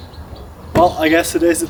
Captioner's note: birds singing happily